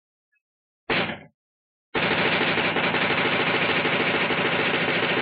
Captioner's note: machine gun fire